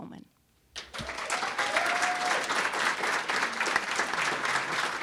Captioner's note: crowd applauding